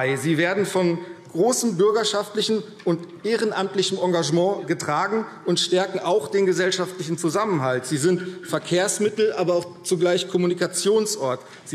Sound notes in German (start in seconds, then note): none